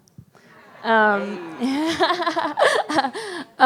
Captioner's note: laughs